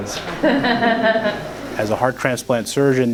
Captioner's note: nurse laughing